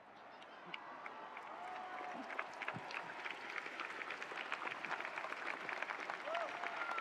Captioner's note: attendees cheering; attendees applauding